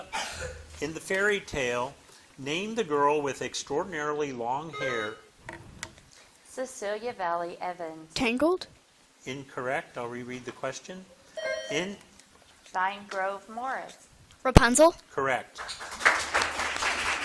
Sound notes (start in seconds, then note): 4.7 bell dinging; 11.4 bell dinging; 15.6 audience clapping